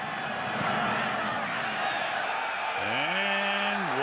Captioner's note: cheering